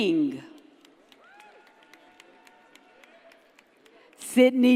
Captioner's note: audience cheers and applauds